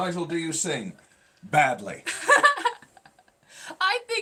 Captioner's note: laughing